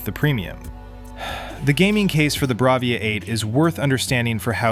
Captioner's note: sighs